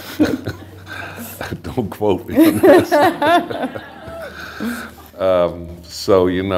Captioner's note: laughter